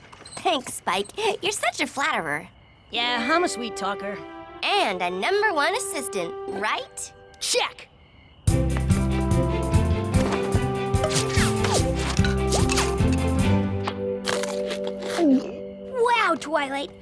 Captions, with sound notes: Thanks, Spike. You're such a flatterer. Yeah, I'm a sweet-Talker. And a number-one assistant. Right? Check! [ Zip! Zip! Zip! Zip! Zip! Zip! ] [ Munch! Munch! Gulp! ] Wow, Twilight!